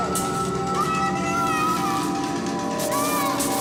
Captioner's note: child screams